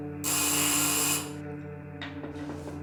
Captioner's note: doorbell rings